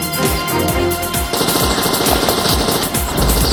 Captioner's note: gunfire